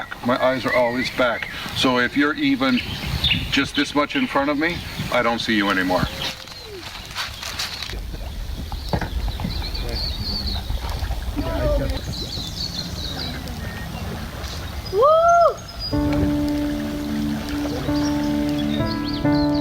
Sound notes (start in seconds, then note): 8.2 birds chirping; 15.9 mellow music